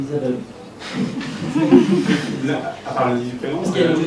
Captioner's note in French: rires